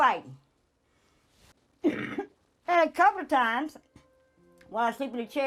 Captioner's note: coughs